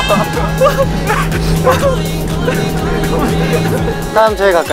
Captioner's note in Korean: 으헤헤헹